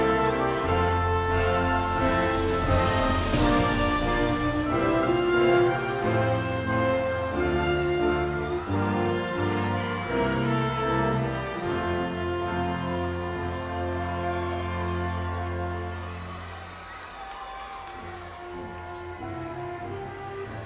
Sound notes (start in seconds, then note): 0.3 bright orchestral music continues; 10.2 audience continues cheering